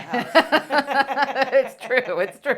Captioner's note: laugh